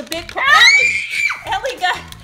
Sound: screams

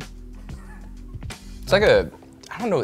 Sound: chuckles

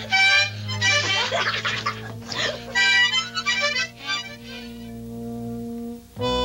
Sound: both laughing; harmonica honking; mellow music

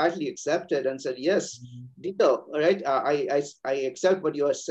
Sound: speaking Mandarin

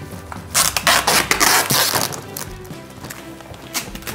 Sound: tape crinkling

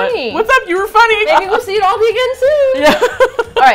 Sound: laughs

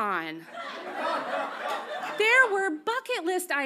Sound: audience laughs

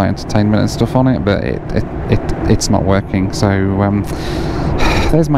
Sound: sighs

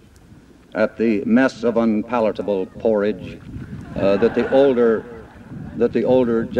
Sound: laughter

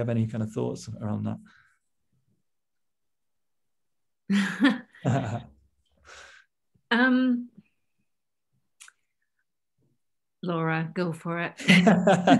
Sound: pause and laughter

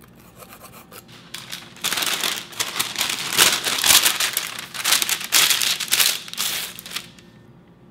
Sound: paper rustling

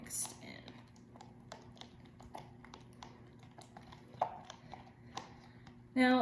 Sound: slime squelching

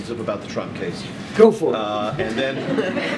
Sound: laughter

